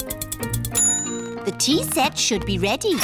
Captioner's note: bell dings